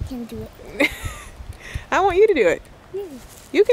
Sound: chuckles

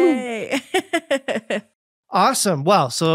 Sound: laughing

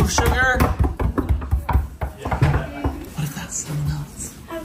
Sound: door knocking

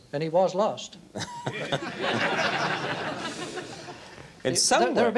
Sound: laughter

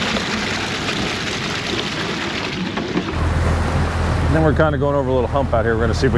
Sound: splashing

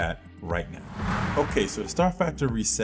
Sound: whirling

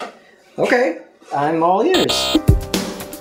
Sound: buzzer; new demo plays in background

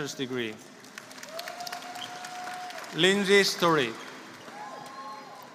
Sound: applause

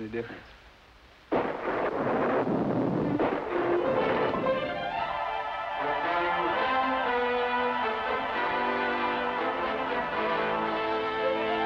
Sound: thunder

